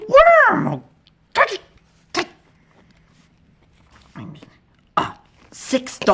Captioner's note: noises of true frustration; noises from hell